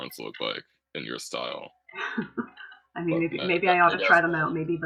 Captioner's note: laughter